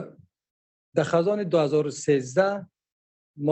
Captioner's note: speaking dari